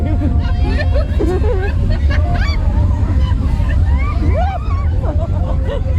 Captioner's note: both laugh and scream